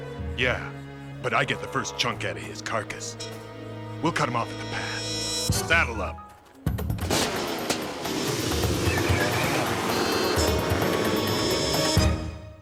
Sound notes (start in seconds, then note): 6.9 engines revving